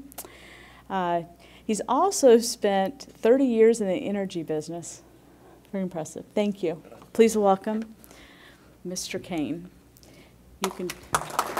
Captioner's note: applause